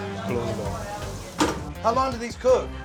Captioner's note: sizzling